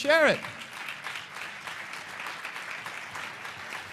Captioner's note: applause